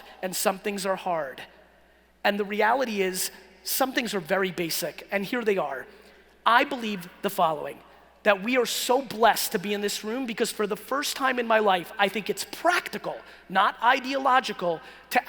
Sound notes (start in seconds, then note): none